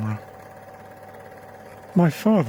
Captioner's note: film reel whirring